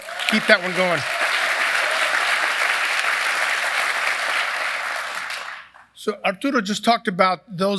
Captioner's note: applause